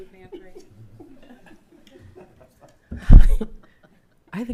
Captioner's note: crowd laughing; chuckles